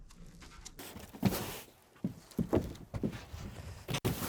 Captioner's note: broom brushing